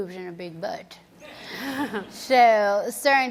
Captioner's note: audience laughs